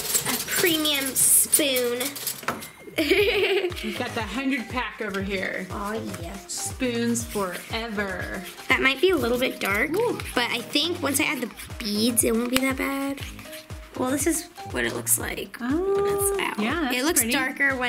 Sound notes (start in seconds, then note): 2.9 giggles